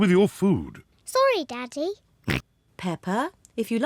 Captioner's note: oinks